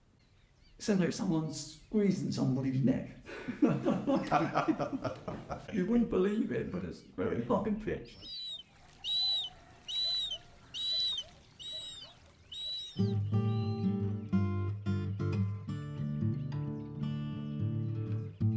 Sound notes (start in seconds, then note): 3.5 laughs; 8.1 Sound of Marsh Harrier call